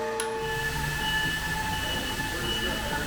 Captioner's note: machinery beeping